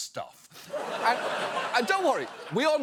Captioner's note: audience laughs